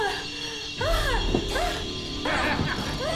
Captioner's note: lady breathing heavily